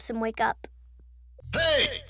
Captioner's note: silence